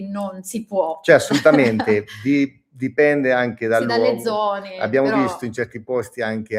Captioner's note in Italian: risate